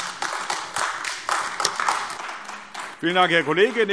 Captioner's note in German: Beifall AfD